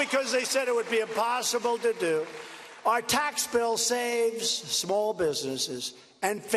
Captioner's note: cheers and applause